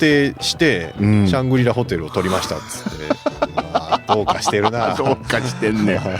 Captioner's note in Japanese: 笑い